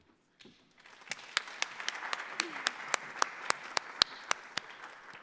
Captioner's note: audience applauds